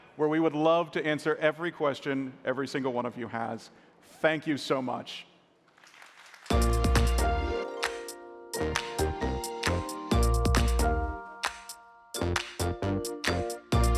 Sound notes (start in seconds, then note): 5.7 applause